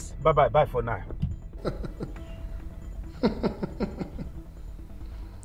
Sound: giggles

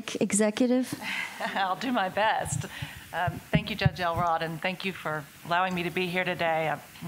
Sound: laughs

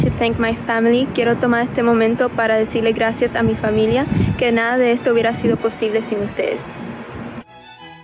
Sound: non-english speech

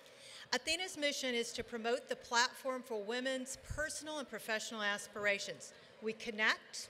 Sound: none

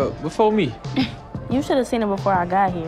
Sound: Jemma laughing

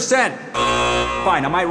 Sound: machine buzzes

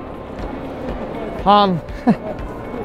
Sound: laughs

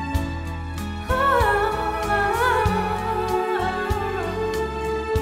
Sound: humming

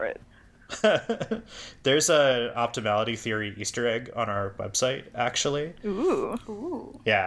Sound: laughs

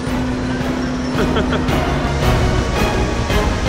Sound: laughs

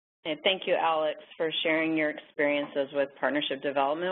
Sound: voiceover

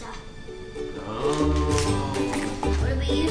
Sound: voiceover

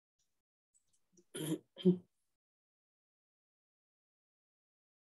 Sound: clears throat

